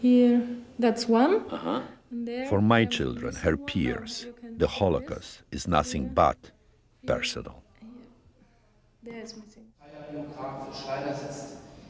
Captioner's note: voice-over